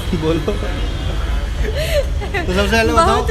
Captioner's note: laughing happily